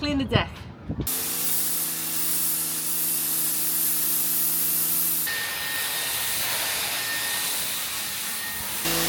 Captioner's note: engine noise